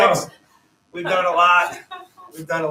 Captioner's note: laughter